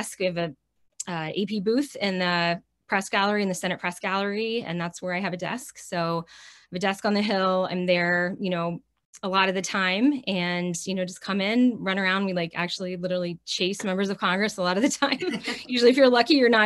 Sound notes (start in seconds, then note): 15.1 chuckles